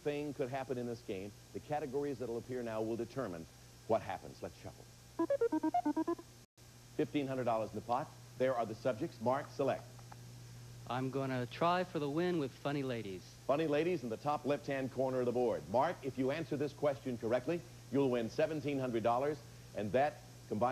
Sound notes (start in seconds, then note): none